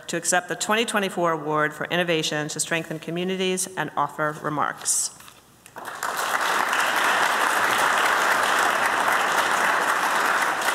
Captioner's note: applause